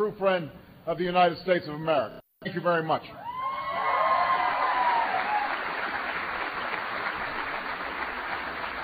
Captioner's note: applause